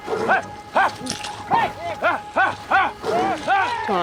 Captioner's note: yelling